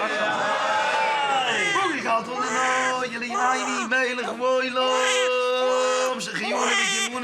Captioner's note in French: Hebrew spoken language